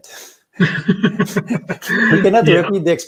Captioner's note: both laughing